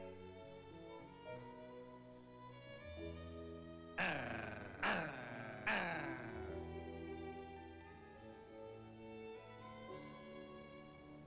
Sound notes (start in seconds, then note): 4.0 dog growling